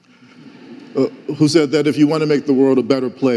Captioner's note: audience laughing